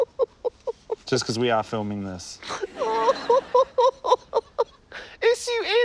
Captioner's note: laughter; laughs hysterically